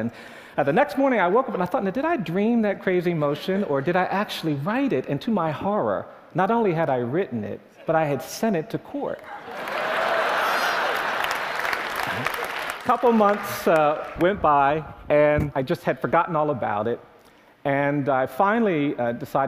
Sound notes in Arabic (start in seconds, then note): 9.4 تصفيق